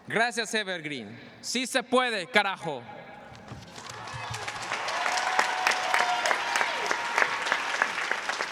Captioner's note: speaking spanish; applause; speaking spanish